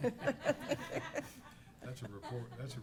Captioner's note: laughter